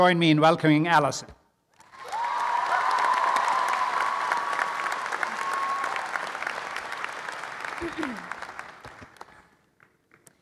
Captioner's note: applause and cheering